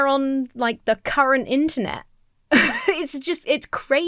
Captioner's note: laughs incredulously